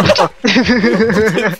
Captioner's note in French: Rire